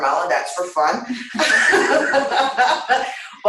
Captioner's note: laughter